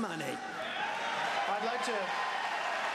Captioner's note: applause